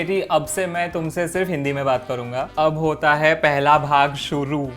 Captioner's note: speaking in Hindi